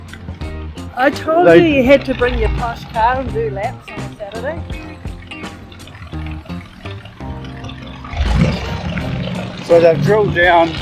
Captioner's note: v8 engine